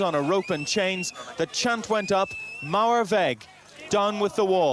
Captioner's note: speaks in foreign language